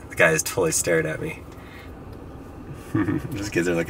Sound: chuckles

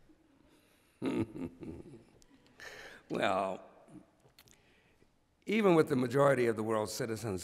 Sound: chuckles

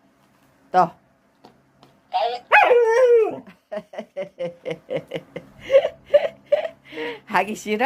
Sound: laughs

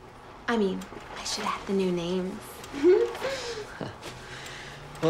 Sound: giggles

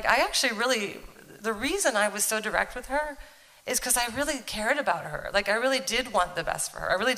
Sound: none

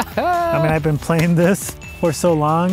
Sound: laughing; hands clapping

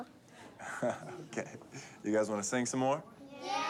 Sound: chuckling

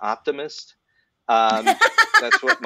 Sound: laughter

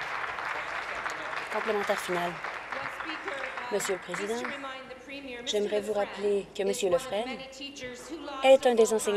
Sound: applause

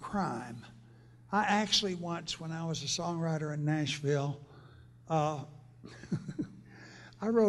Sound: laughs

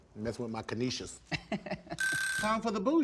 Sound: laughs; phone rings

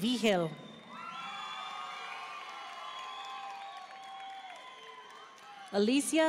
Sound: audience cheering and applauding

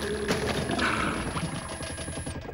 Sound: <i> gurgling</i>; <i> toilet squeaks and flushes</i>

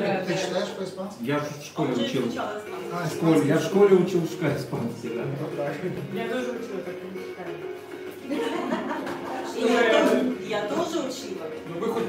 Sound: operator tries to read chat messages in Spanish

